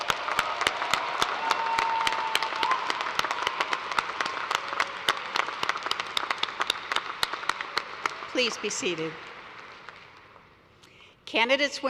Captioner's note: cheers and applause